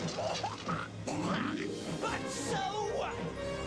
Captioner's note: coughs